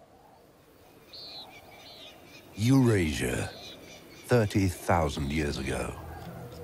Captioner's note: birds chirping